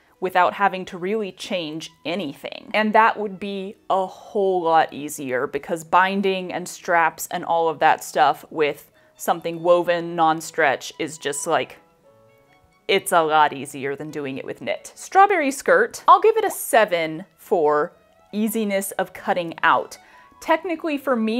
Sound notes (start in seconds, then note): none